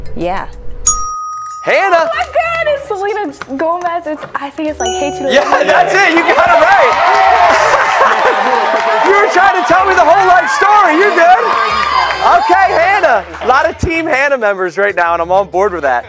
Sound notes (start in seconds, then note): 4.2 cheers and applause